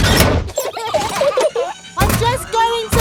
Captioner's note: children giggling